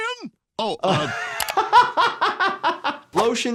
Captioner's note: laughing